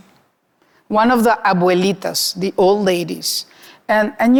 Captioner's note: speaking Spanish